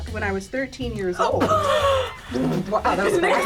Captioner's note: group gasps